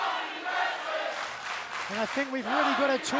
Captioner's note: fans chanting